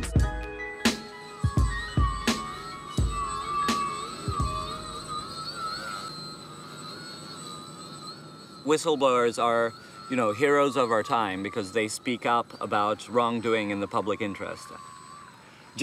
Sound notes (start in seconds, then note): 0.0 upbeat electronic music; 2.9 machine engine running